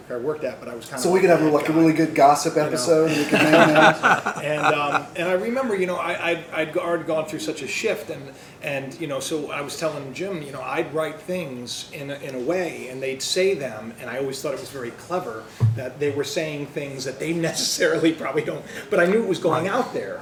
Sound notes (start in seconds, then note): 3.0 laughter